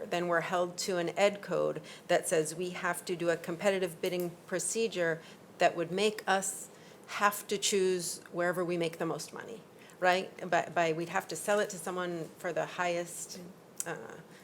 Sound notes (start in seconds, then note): none